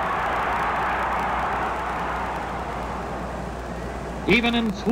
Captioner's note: crowd cheers